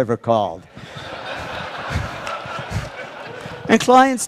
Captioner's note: Laughter; 笑聲